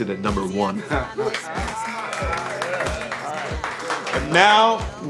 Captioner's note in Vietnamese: ăn mừng, vỗ tay